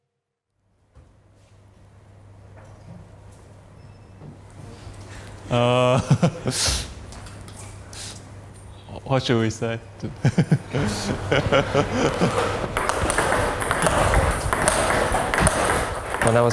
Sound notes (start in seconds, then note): 5.4 laughs; 10.0 laughs; 12.0 ball tapping